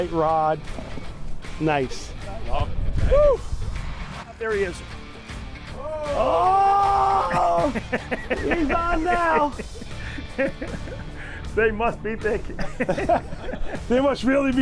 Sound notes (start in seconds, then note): 8.4 yells